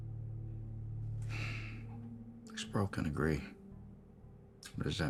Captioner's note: sighs